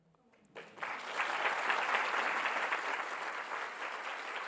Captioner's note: audience applauding